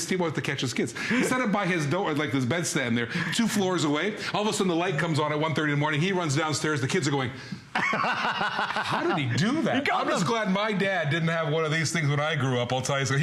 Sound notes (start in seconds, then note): 7.7 laughter